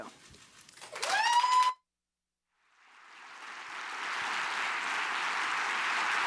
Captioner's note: audience cheers and applauds